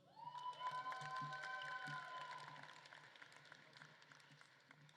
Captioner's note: audience claps and cheers